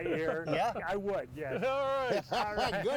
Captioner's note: laughing